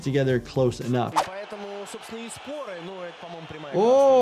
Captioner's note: commentator speaking in foreign language